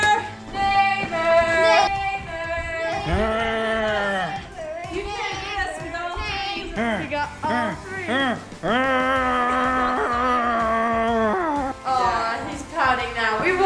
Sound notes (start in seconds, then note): 2.9 growling; 8.0 grunting